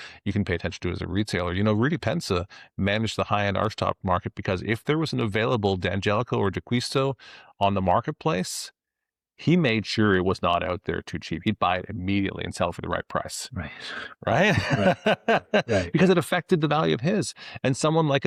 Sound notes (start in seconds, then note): 13.9 laughs